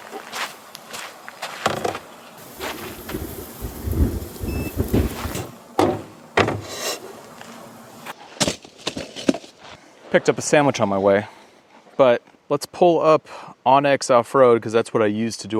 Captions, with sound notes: (footsteps crunching) (wind whooshing) (gear clattering) I picked up a sandwich on my way, but let's pull up On X Offroad. 'cause that's what I use